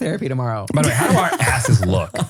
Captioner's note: laughs